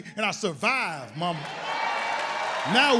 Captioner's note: audience applauds